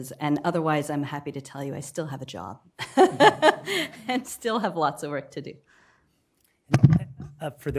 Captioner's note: laughter